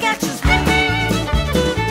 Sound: clap clap

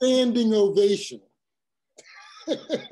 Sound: laugh

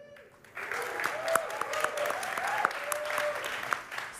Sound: applause

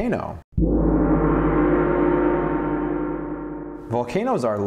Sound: gong

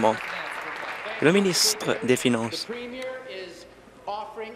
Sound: applause

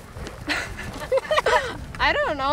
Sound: she laughs

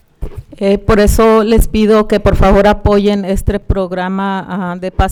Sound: speaking Spanish

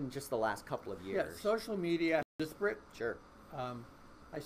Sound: voice muffled

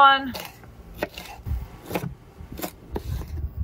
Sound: knife chopping

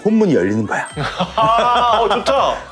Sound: laughter

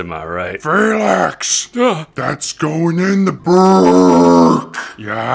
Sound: gasp

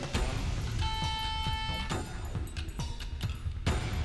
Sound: Rover operating

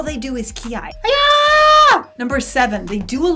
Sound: scream

